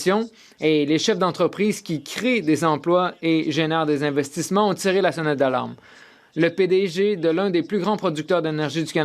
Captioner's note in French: voix de l'interprète